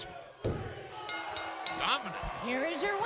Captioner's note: bell ringing